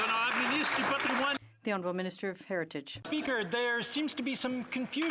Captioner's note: some Applause